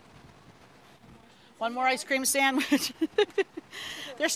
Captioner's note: laughs